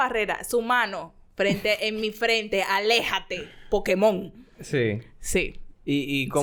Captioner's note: laughs